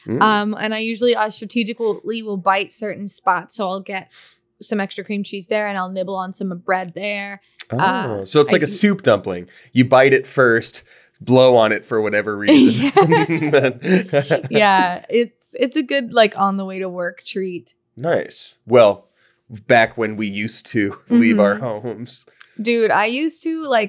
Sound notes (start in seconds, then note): 12.4 laughing